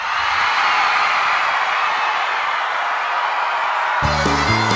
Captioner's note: cheers